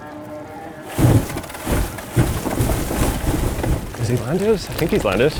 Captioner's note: aircraft thumps